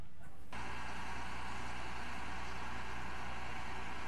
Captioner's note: crane cranking